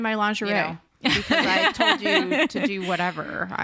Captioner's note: all laugh